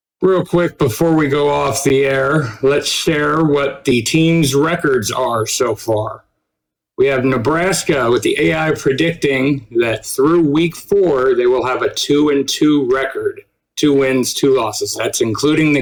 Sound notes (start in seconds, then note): none